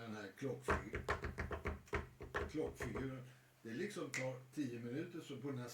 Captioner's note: tapping rhythm